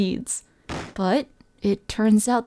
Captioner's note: off screen crash